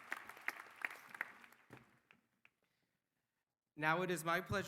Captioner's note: applause